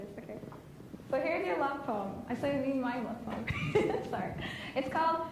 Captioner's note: laughs